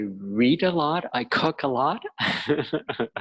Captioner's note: laughing